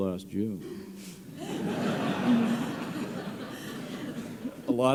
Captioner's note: laughter